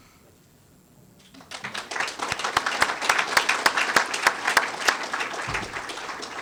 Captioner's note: applause